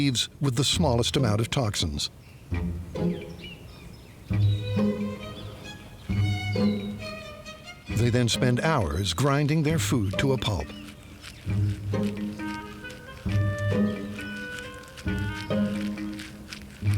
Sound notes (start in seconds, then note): 2.5 plucky music; 11.4 leaves grinding